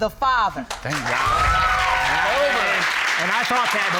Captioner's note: all cheering